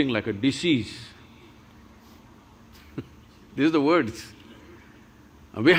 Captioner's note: laughs